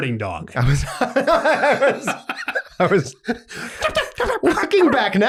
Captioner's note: both hosts laughing